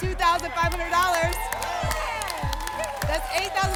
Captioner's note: applause and cheering